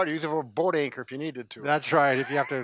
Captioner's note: laughs